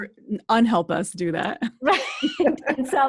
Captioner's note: both chuckle